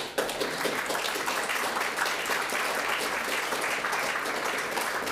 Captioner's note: audience applauding